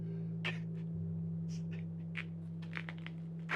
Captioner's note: sobbing